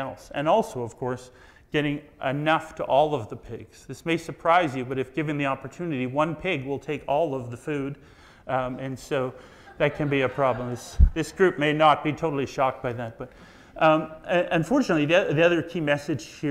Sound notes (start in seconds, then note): 9.5 audience laughs